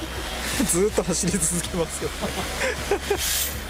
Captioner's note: laughs